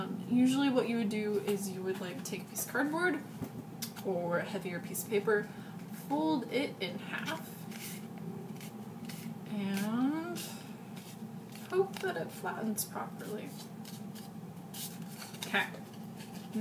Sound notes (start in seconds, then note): 8.0 sound of cardboard being folded